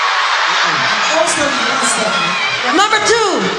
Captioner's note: cheering